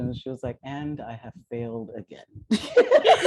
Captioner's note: laughter